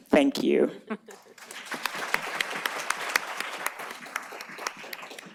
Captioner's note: applause